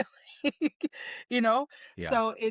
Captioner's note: laughs